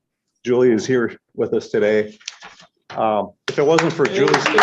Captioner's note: applause